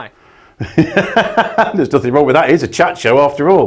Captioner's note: laughs